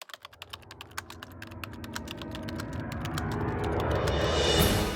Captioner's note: typewriter sounds